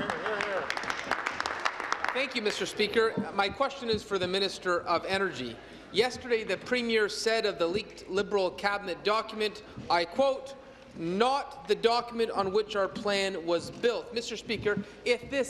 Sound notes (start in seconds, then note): 3.7 applause